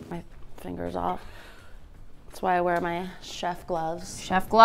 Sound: none

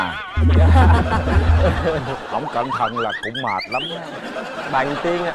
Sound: laughter

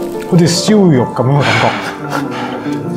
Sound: Cantonese

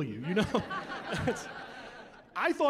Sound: laughing

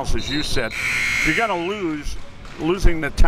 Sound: buzzer

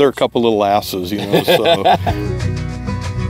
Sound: lighthearted music; laughs

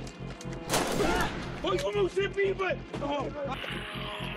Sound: speaks faintly

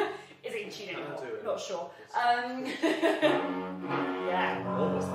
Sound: tests intonation

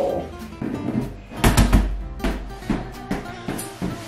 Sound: ball bouncing

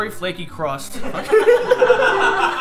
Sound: laughing

